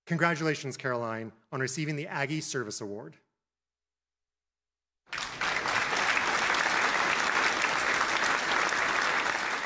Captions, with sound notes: Congratulations Caroline on receiving the Aggie Service Award. (applauding)